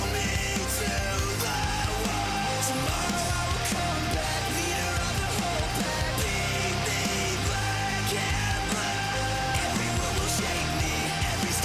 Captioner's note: crowd cheering